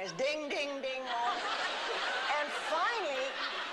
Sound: laughter

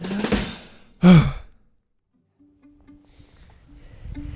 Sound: breathes out

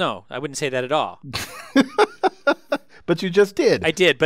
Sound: laugh

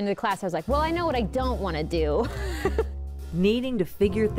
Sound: laughs

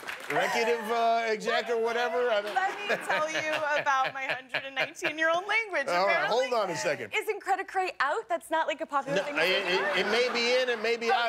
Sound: laughter

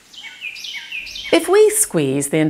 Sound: frog croaking; birds chirping

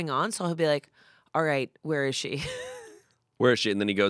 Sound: laughs

